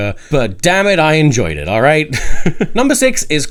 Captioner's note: laughing